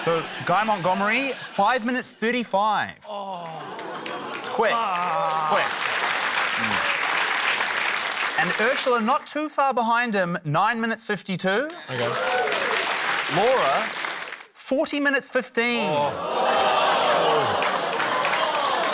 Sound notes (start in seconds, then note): 3.1 groans; 3.4 applause; 11.7 applause; 15.8 audience exclaims, applauds